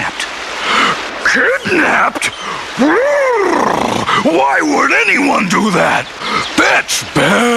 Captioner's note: roar